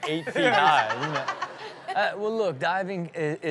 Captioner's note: audience laughs